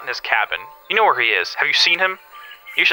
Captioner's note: the man laughs